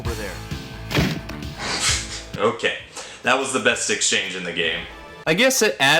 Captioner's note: door shenanigans